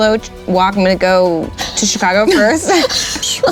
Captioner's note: laughing